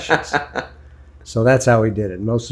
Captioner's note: laughs